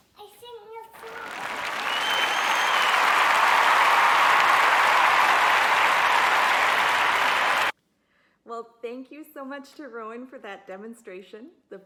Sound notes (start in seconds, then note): 0.9 applause; 1.0 cheering